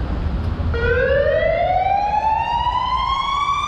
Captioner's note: police siren